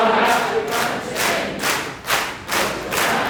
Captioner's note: clapping